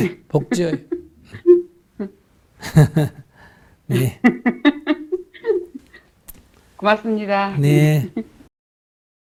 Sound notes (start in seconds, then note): 3.9 laughter